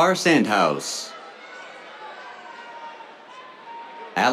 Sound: cheers

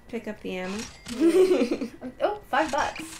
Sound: laughter

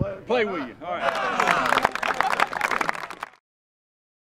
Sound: team clapping

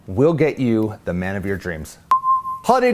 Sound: chime

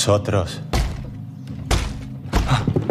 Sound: thuds

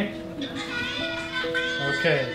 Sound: children on phone yelling

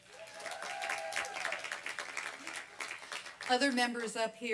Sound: applause and cheering

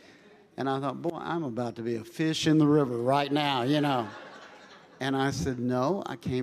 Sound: congregation laughing

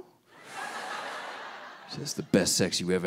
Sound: audience laughing

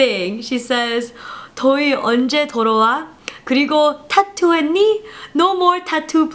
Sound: speaking in Korean

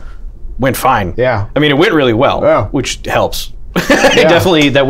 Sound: laughter

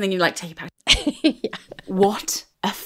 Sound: laughing

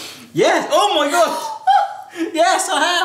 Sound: laughs; gasps

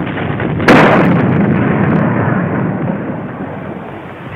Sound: cannon roaring; fire crackling

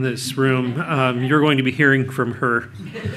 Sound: audience laughs

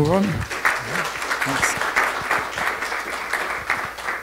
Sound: audience clapping

